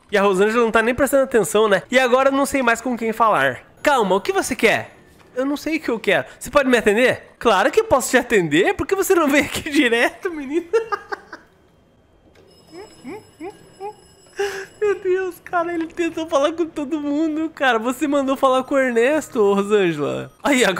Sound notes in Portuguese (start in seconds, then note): 10.4 risos